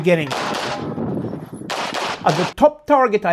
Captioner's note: gunshots banging continues